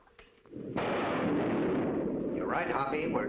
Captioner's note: loud thunderclap